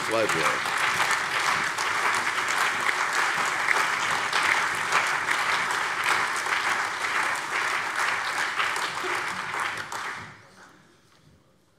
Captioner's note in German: Lebhafter allgemeiner Beifall